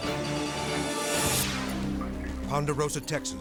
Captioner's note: graphics whooshing